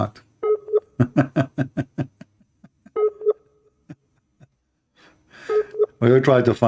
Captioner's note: Ketawa